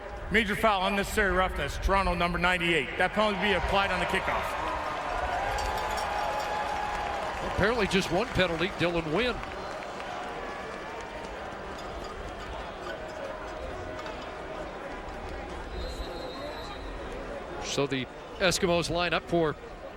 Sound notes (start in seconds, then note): 1.3 crowd Noise